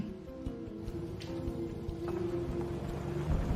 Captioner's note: car driving off